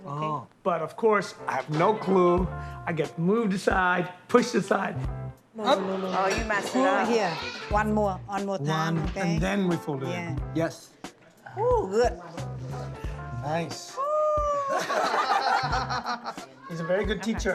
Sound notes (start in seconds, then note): 14.6 laughter